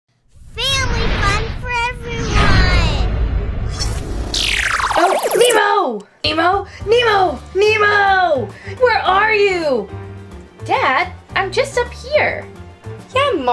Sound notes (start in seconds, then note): 0.7 voiceover